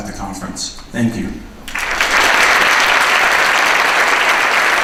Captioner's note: applause